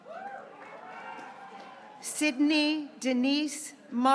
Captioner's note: graduates cheering